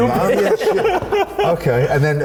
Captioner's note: group laughing